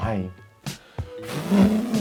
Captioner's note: blows